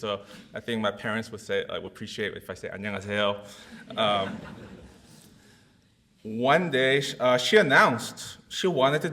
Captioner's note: audience laughs